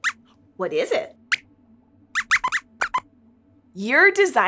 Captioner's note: squeaks squeaks